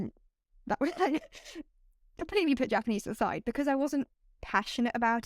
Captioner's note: laughter